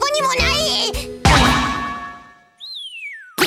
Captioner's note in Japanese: 殴る音